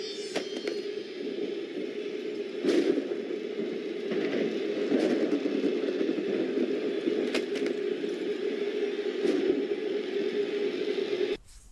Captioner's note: audio from show